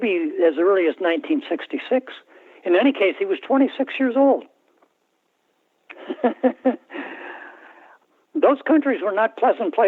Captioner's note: laughter